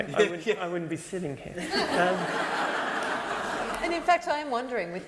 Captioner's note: laughter